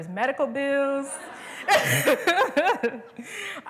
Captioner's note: laughter